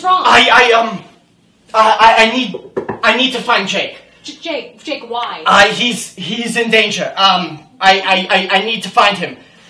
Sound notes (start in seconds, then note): 2.6 taps the table